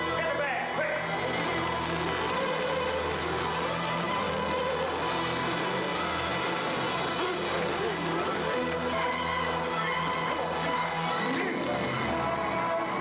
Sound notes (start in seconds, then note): 0.9 fire crackling; 2.0 dramatic music; 12.0 military orchestral music